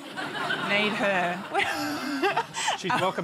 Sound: laughter

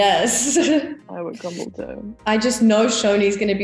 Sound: laugh

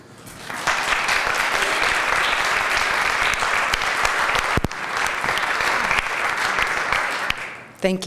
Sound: applause

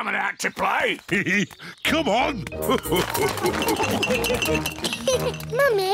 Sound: laughs; all laugh; giggles

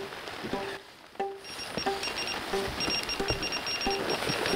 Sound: bite alarm beeping

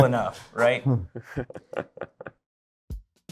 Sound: chuckling

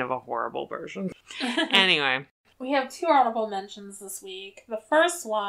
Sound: laughs

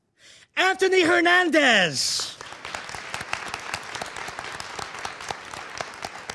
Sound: audience applauding

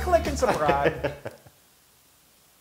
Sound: laugh

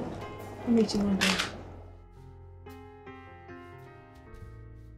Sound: Diana speaking faintly

